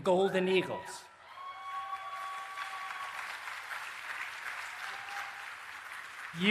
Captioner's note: applause and Cheering